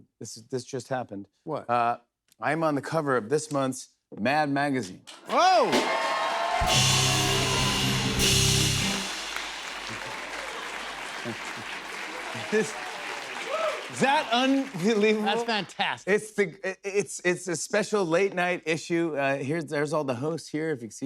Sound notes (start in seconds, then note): 6.2 cheers and applause